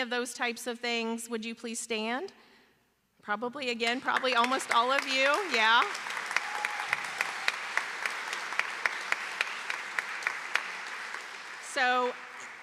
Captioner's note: applause